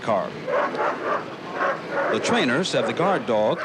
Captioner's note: dog barking